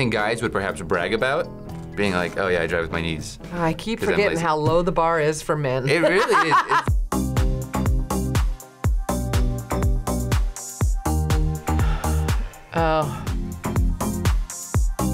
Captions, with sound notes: guys would perhaps brag about, being like, "Oh yeah, I drive with my knees." - I keep forgetting how low the bar is for men. (laughs) - It really is! - Oh.